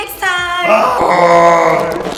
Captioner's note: elastic stretching; growling